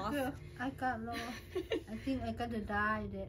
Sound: laughs

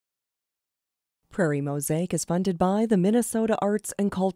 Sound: voiceover

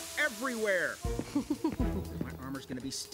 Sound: giggles

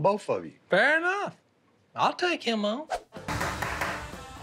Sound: bangs on table

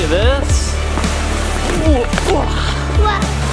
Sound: grunts

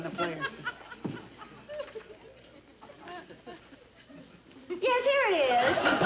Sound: audience laughing

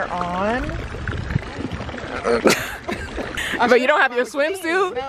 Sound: both laugh

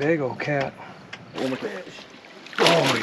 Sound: fish splashing

